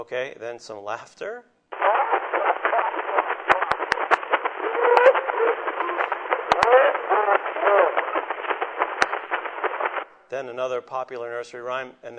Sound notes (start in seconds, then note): 1.7 laughs